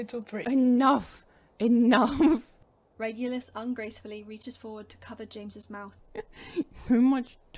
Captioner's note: Regulus giggles